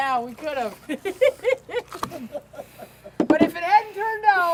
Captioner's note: giggling